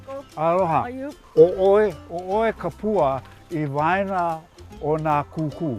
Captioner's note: speaking Hawaiian